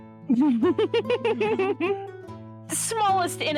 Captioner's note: giggling